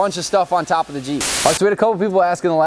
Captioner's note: static